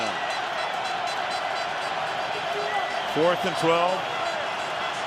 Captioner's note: cheering